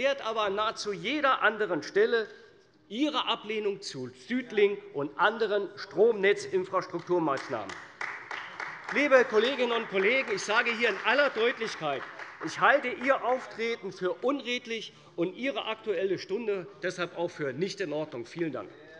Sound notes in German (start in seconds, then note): 7.3 Beifall bei der CDU und dem BÜNDNIS 90/DIE GRÜNEN